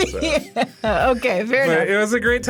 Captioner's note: laughs